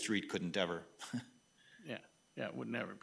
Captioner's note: laughs